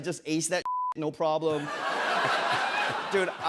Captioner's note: laughter